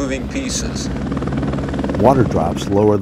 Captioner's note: sound of helicopter